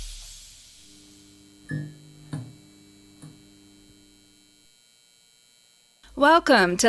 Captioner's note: electrical hum and light turning on sounds